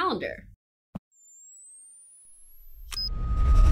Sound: high pitched electronic noise

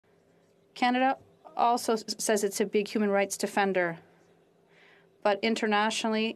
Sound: voice of translator

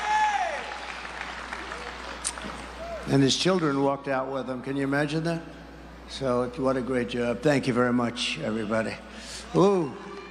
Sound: applause

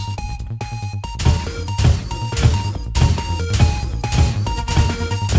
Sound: feet stomping

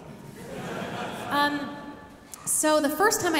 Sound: audience laughing

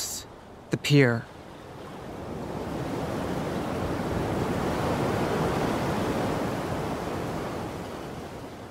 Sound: wind and waves crashing

